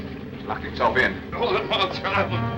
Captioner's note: Joe mutters